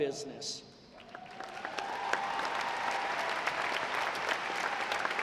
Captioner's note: audience applauding